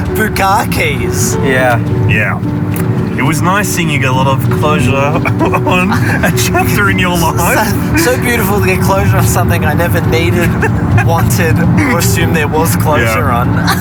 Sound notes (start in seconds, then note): 5.0 laughs